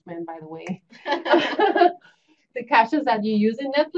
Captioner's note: laughter